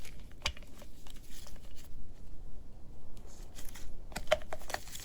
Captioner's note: plastic crinkling